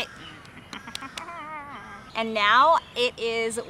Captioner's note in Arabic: التذمر